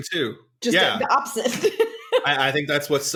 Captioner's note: laughs